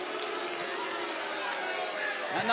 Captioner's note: cheers and boos